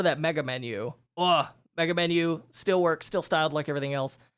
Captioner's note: groans